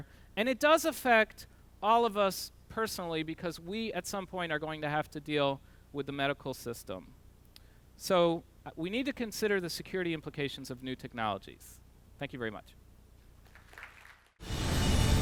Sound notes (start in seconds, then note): 13.4 applause